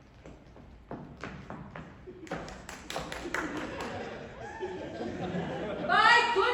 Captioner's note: She takes the high ground, Anakin! Scattered applause and laughter